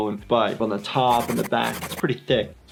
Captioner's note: scribbling noises